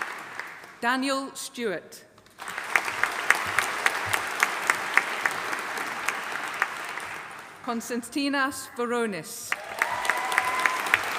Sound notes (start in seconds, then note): 2.4 audience applauding; 9.5 audience applauding